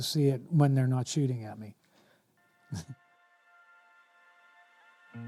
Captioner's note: chuckling